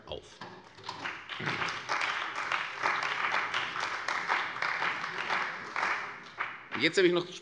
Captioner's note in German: Beifall bei der CDU und dem BÜNDNIS 90/DIE GRÜNEN